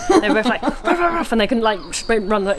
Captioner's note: imitates dogs barking